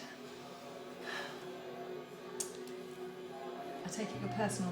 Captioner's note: sighs